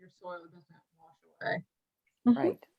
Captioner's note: audio drops